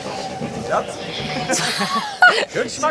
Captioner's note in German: Lachen